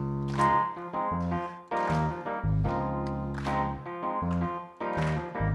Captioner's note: audience clapping rhythmically; soulful music